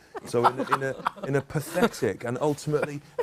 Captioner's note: laughter